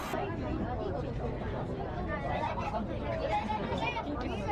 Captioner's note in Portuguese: som de conversas